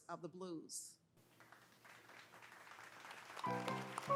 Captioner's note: audience applauding; lively piano music